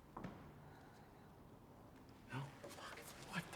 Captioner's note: whispers